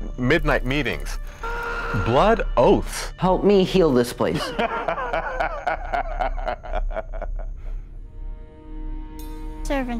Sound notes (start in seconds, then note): 4.3 priest laughing; 8.0 eerie music